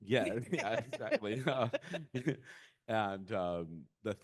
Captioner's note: laughing